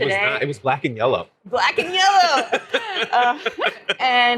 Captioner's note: both laughing